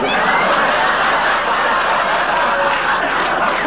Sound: audience laughing

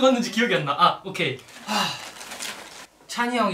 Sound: A big sigh

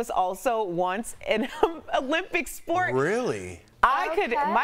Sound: laughter

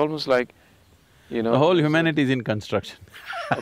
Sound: laughs

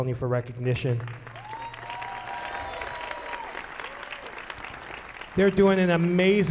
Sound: audience applauding and shouting

